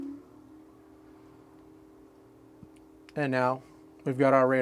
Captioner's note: buzzing sound